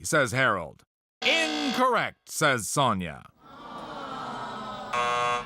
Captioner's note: low buzzer; audience sighs; buzzer